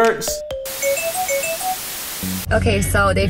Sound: whimsical music; static crackling

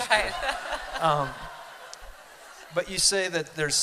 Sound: laughter

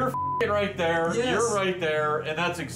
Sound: beeps

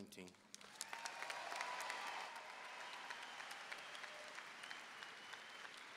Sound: audience cheering and applauding

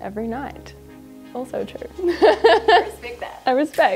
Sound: laughing

